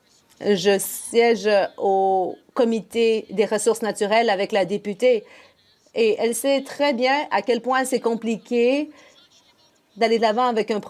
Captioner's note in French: voix de l'interprète